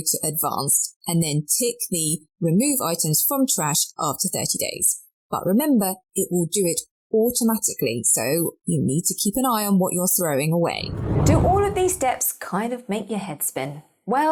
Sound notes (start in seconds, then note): 10.7 air whooshing